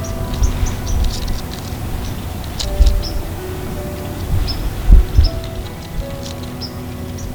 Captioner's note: sound of running, soft music